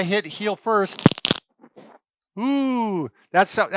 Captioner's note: cracking